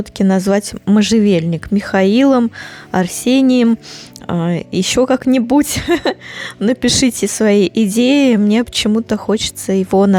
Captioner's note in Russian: фыркает